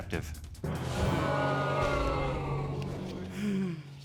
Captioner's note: audience exclaiming